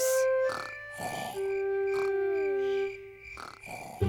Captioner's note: george snoring